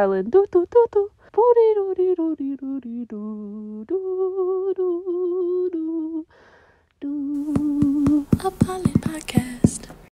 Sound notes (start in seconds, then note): 0.2 vocalizing; 7.4 rhythmic tapping